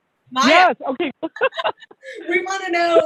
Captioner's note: laughs